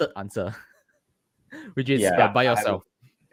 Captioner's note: laughs